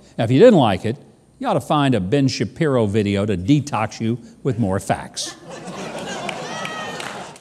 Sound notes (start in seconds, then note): 5.3 audience laughs